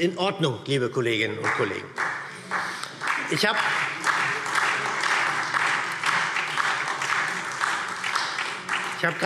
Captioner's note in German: Beifall SPD und Freie Demokraten